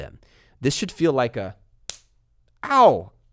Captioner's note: hand slapping